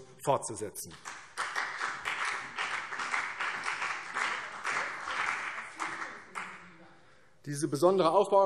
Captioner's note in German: Beifall CDU und vereinzelt BÜNDNIS 90/DIE GRÜNEN